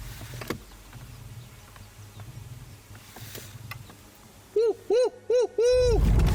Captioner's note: car door clicks; imitates gobbling